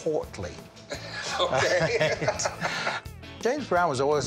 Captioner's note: laughs